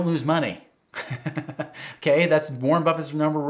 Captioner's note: laughs